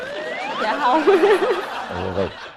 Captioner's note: laughter